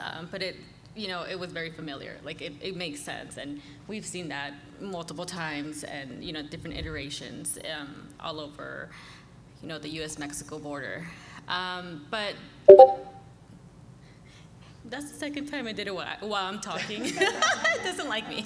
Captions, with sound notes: But it you know, it was very familiar. Like it makes sense. And we've seen that multiple times and, you know, different iterations all over, you know, the US-Mexico border. But [beeping noise] that's the second time it did it while I'm talking, it doesn't like me.